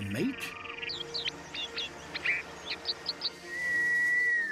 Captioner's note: chirps